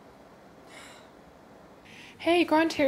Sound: sigh

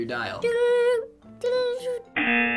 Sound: imitates fax sounds

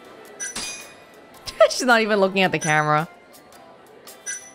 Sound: chuckles

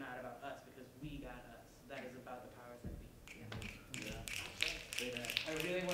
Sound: snapping

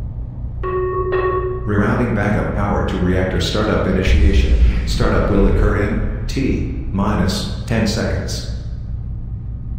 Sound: announcement Chime

